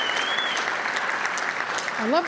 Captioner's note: applause